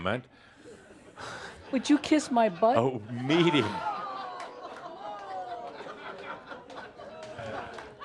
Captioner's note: audience says “Ohh!” and some chuckles